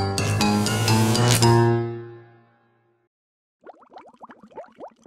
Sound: electricity

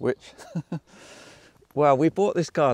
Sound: host chuckling

